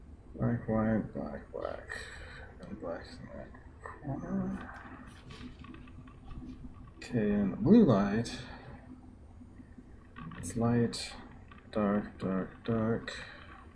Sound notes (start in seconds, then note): none